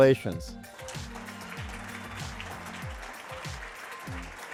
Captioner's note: audience clapping